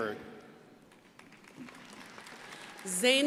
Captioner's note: crowd applauding